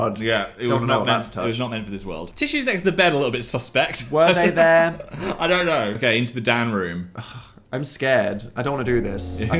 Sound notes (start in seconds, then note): 7.1 scoffs